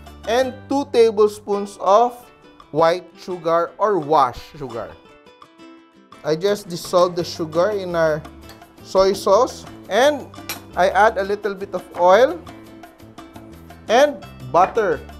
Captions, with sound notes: and 2 tablespoons of -- white sugar or washed sugar. I just dissolve the sugar in our -- soy sauce, -- and -- [Clink] I add a bit of oil -- and butter --